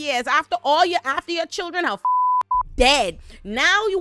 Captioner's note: beep